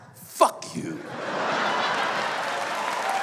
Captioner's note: laughter